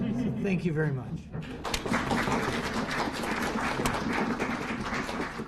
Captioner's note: applause